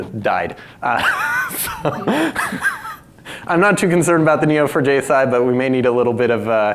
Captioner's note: laughs